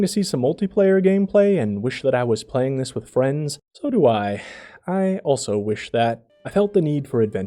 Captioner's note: sigh